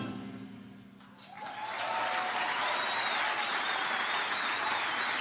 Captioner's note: audience applauding